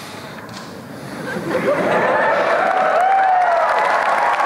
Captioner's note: applause and cheering